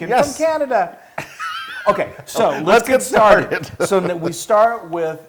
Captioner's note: laugh